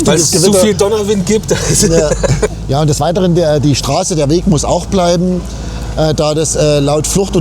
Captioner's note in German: gelächter